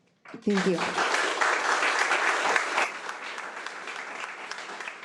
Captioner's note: audience applauding